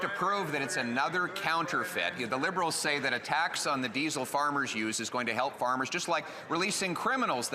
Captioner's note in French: voix de l'interprète